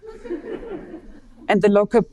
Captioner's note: audience laughing